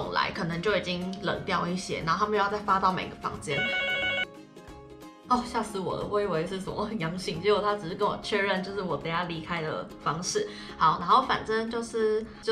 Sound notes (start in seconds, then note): 3.5 the intercom is ringing